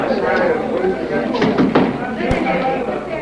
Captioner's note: knocking